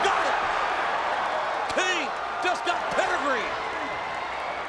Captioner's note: applause